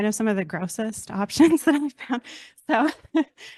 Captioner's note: chuckles